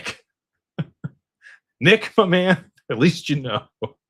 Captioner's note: laughter